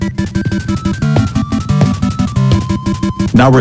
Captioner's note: footsteps